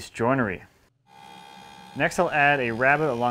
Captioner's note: planer buzzes